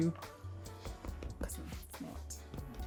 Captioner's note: hands tap